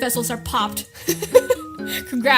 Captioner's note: laughs